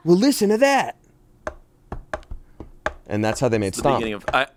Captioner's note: taps fingers